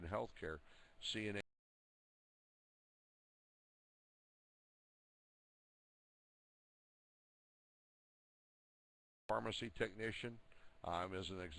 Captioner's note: audio drops